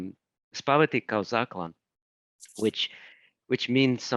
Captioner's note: speaking in foreign language